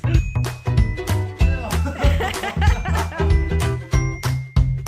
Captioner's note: laughing